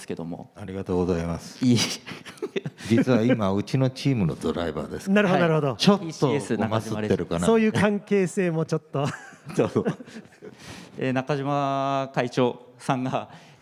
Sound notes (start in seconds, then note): 6.2 laughs